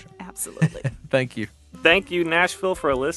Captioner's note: mid-tempo jazz music playing; chuckling